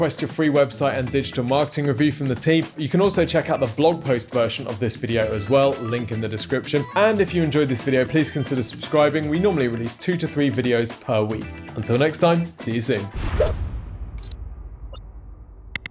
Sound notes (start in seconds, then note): 13.2 thwip noise; 14.2 digital clicking noises